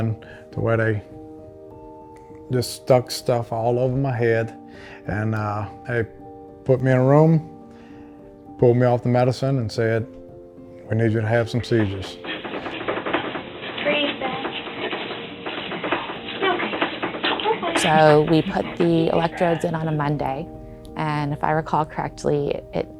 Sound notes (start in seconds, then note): 13.2 bed rattling